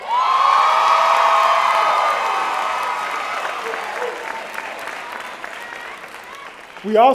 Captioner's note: cheering